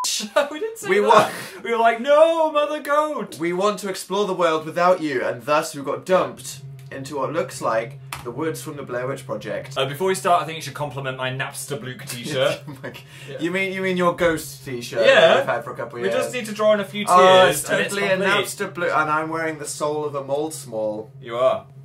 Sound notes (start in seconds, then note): 0.8 laughs; 12.3 huffs a laugh